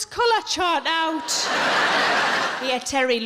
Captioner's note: audience laughing